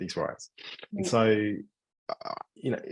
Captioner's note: sighing